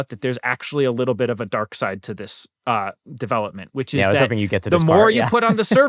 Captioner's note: laughter